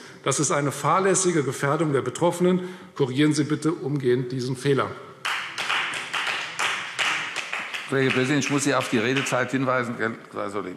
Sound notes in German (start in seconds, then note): 5.2 Beifall Freie Demokraten